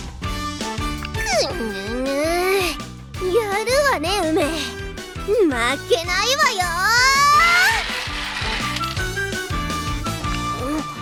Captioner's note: spins and marble plunks out